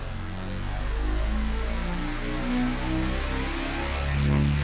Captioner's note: engine revving